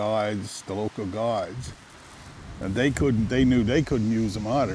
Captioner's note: river gurgling